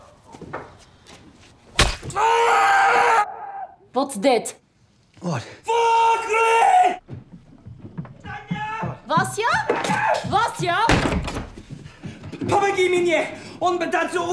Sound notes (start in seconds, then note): 2.1 screaming; 9.8 screaming; 12.3 speaking russian